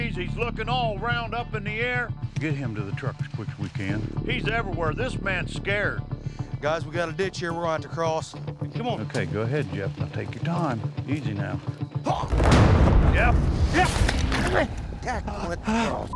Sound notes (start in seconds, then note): 11.6 groaning; 12.4 suspenseful sound; 13.7 groaning